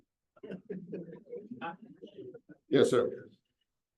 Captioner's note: audience members chattering